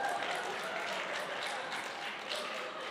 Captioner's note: applause